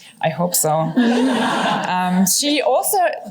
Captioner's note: laughter